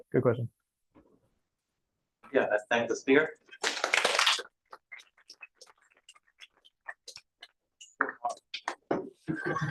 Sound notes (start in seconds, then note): 3.6 applause